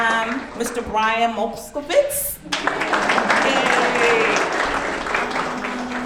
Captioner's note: audience clapping